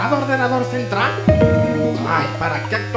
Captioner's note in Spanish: sonido de error de windows